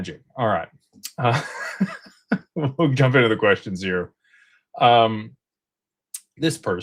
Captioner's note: laughter